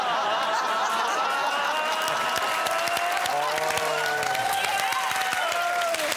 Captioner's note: applause